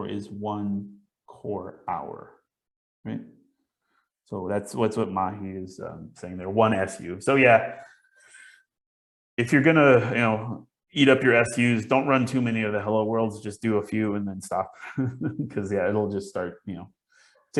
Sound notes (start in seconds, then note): 14.8 chuckles